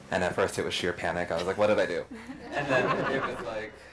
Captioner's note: group laughs